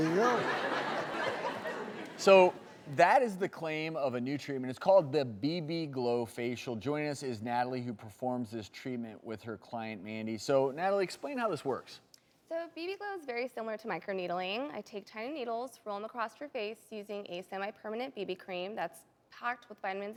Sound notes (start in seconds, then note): 0.0 audience laughter